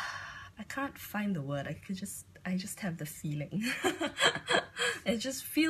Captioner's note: laughs